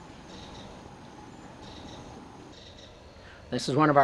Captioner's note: bird calling